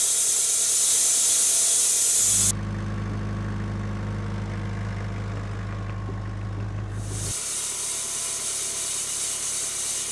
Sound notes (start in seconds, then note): 2.3 forklift engine roaring; 7.6 saw revving